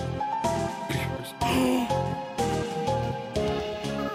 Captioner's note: gasps